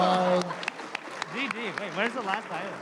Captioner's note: applause